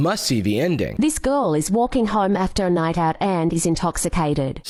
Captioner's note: AI voiceover